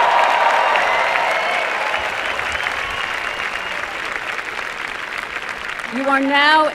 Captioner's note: applause and cheering